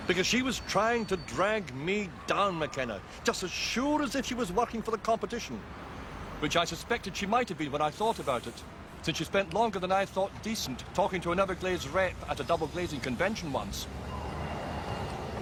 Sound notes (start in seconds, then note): none